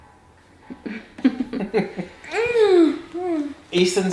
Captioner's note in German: Eltern kichern; murmelt